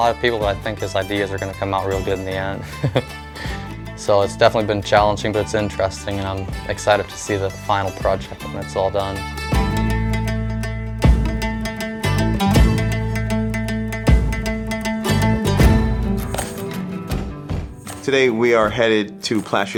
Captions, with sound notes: but I think his ideas are gonna come out real good in the end (chuckling). So it's definitely been challenging, but it's interesting, and I'm excited to see the final project when it's all done. (dramatic music) - Today we are headed to Plassche Lumber.